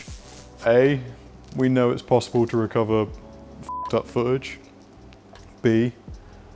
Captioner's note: beep